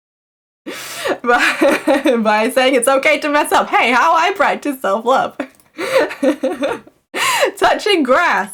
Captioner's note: laughs